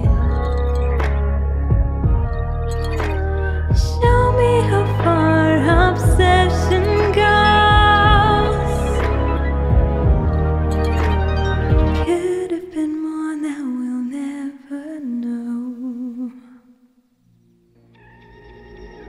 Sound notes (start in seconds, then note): 16.5 silence